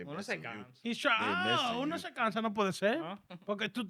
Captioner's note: speaking In Foreign Language